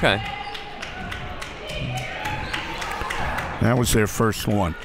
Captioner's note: crowd clapping